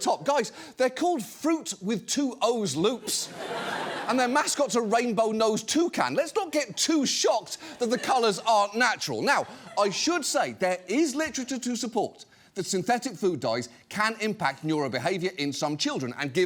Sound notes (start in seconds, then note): 3.2 studio audience laughs